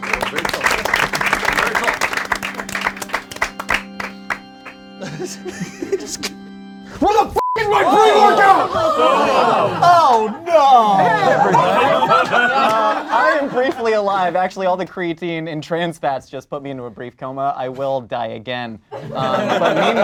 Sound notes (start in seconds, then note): 0.0 group claps; 0.0 organ music; 7.4 beep; 7.6 group gasps